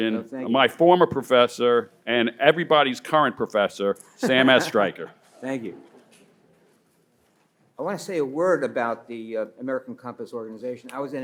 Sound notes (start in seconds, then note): 4.2 laughs